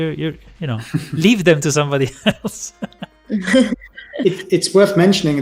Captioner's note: laughs